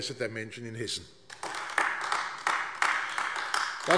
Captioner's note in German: Beifall AfD